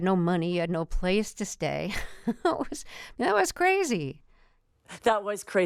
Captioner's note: laughter